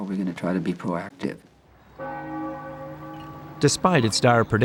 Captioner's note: bell ringing